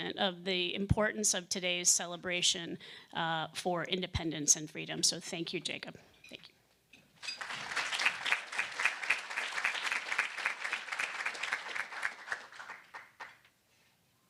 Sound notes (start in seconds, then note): 7.2 audience applauding